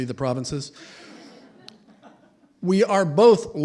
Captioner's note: laughter